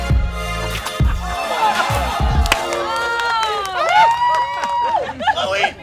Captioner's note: crowd laughing and cheering